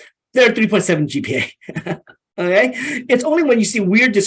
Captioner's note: chuckles